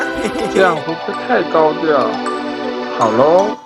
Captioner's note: hehehe